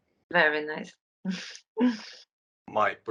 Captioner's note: laughs